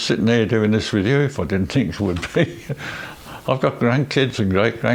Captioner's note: laughs